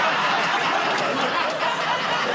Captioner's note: laughs; laughter, buzzer